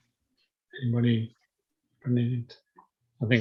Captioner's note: voice muffling